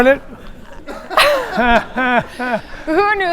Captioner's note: audience laughs